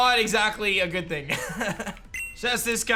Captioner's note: chuckles